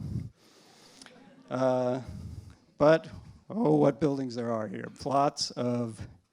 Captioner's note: laughter